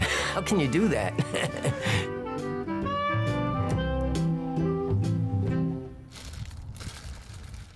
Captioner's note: gentle music; laughing